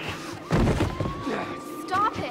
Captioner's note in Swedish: grymtar